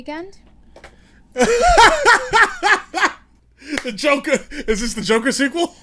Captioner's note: laughs